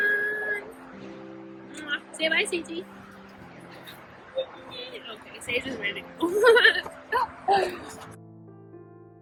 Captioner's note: giggles